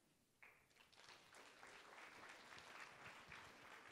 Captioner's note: applause